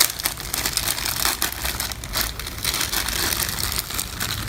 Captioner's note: bag rattling